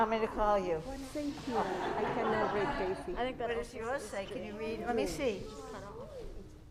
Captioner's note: overlapping chatter